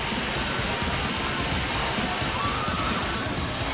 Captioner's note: cheers and applause